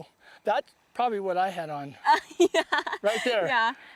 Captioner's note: laughter